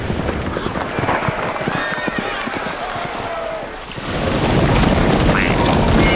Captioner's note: horses trotting; soldiers shouting; Israelites trotting